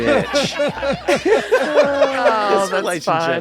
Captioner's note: laughter